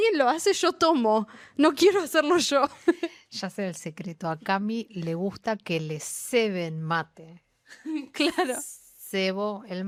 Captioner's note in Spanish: risas